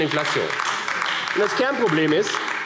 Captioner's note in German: Beifall AfD